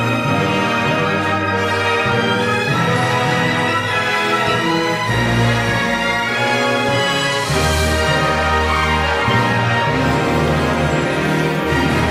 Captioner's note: alien gibberish